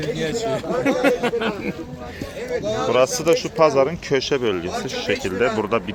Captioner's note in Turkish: kahkaha